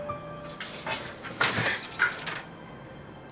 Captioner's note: sobbing